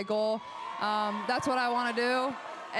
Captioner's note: crowd cheers